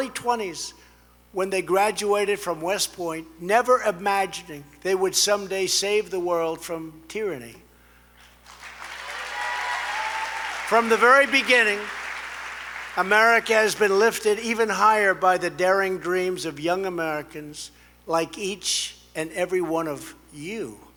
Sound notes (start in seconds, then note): 8.2 applause